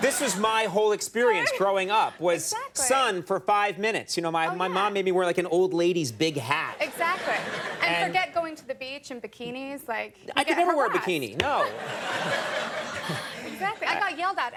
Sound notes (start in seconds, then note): 6.4 audience laughing; 12.5 audience laughing; 12.8 Amy laughing